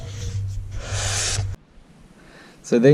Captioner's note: silence